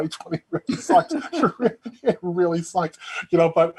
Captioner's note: both chuckling